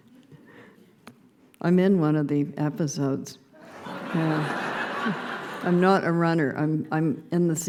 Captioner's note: laughter